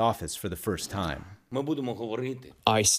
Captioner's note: through translator